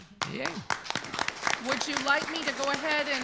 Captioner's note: all applaud